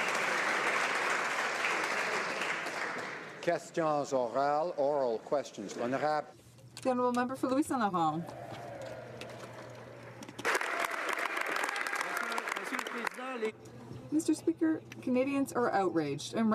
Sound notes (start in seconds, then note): 0.0 some Applause; 7.6 speaking French; 14.2 some Applause